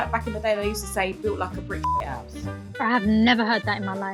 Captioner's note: beeping